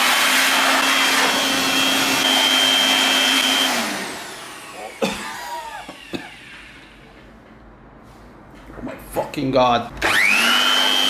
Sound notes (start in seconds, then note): 4.7 cough